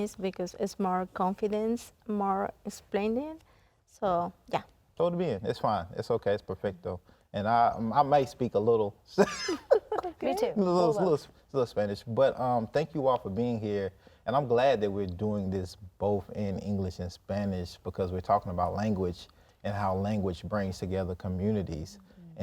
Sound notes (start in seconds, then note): 5.2 in Spanish; 9.2 laughs